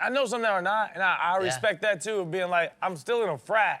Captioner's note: none